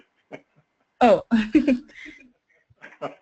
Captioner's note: laugh